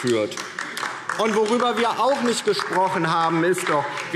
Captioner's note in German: Beifall DIE LINKE